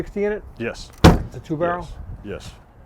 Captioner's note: car door slams